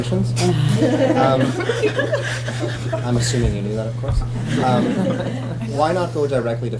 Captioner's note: laughter